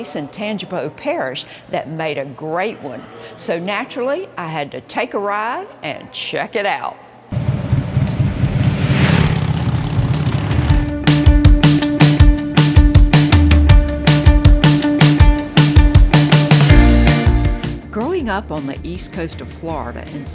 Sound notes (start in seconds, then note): 7.4 motorcycle engine roaring; 10.6 upbeat music